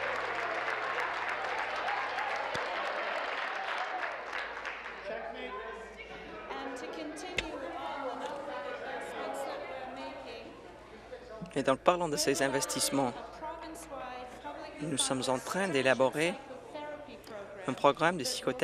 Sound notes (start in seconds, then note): 0.0 some applause